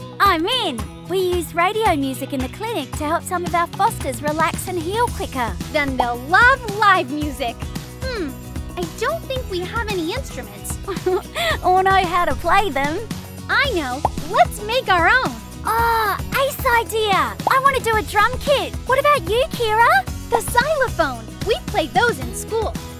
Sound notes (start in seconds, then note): 10.8 giggles